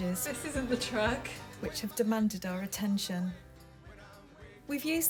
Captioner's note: voiceover